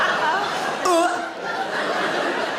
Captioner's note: Sarah laughing; Sarah imitates retching; Sarah laughs; audience laughing